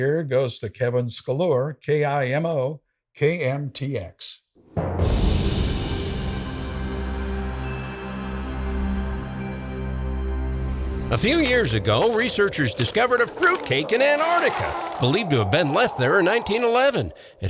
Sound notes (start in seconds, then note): 4.8 soft music; 4.9 wind whooshing